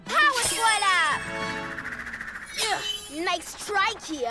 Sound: none

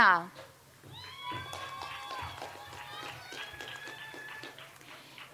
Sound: audience applauds

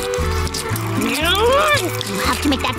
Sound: groaning

